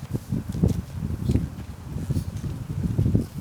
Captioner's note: wind blowing